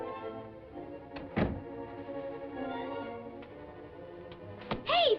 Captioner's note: door opens; door shuts